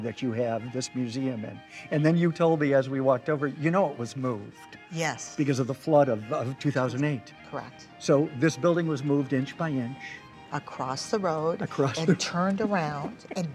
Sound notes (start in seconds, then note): 11.6 laughs